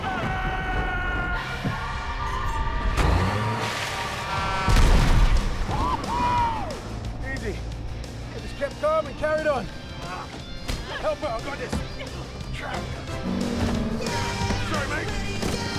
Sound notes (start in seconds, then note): 0.3 yelling; 4.4 horn honking